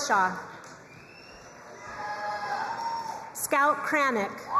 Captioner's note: crowd cheering and applauding